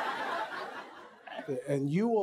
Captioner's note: laughter